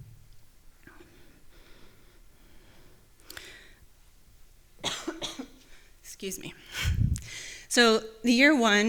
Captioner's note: coughs